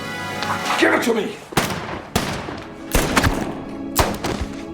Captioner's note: guns firing; dramatic music